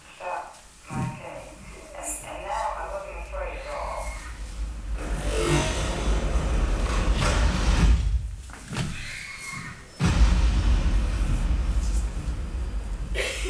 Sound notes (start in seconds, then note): 3.5 tense music; 3.7 metal whirring; 9.0 woman shrieks; 10.0 dramatic music; 13.1 woman coughs